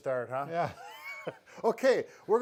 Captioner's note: laughs